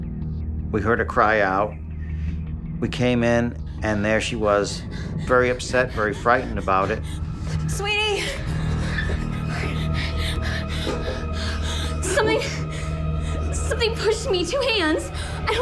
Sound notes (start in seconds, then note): 10.0 Cindy gasping